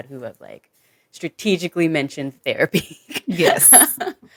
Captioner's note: chuckles